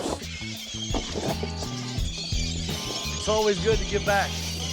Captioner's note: birds screeching, feeding